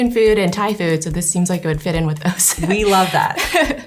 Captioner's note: laughs